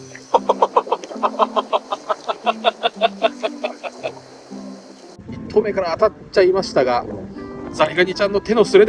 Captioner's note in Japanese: 笑い